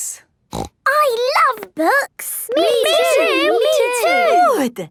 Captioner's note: snorting